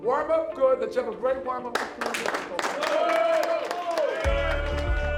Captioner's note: team cheers; intense music plays